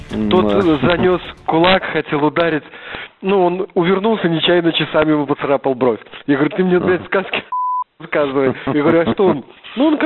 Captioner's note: laugh